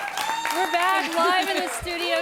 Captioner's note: �applause�